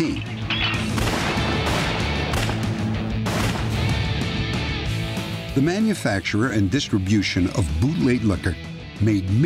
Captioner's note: gunshots